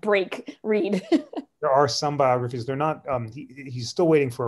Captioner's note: laughter